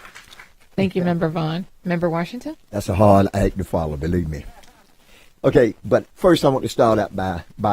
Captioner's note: applause